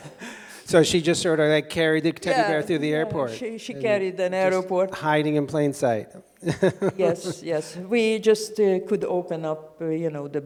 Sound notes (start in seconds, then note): 6.4 laughs